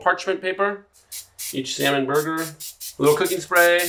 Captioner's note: cooking spray spritzing